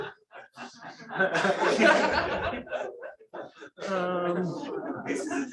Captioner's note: laughter